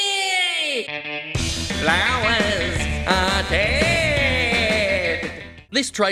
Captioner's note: as Skeletor